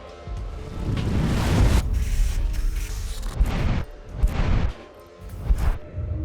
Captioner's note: air whooshing; device whirring